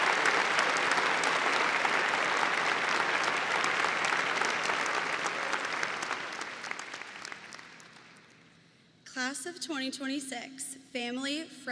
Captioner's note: applause